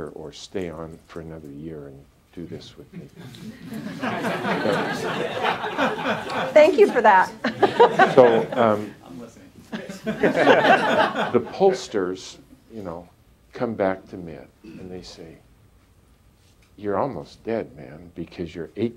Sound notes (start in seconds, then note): 3.0 laughter